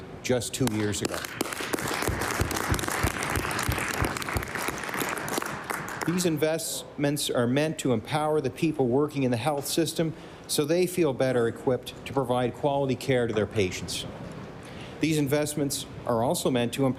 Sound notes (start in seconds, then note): 3.8 applause